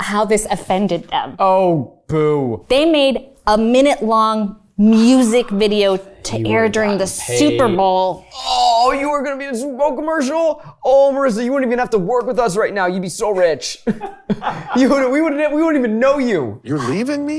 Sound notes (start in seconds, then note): 13.9 everyone laughs